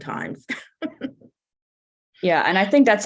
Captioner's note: laughing